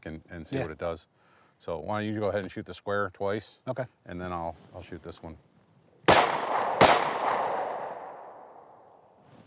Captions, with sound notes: and see what it does. So why don't you go ahead and shoot the square twice. - Okay. - And then, I'll shoot this one. (gun banging)